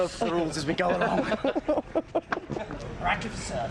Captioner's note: man laughing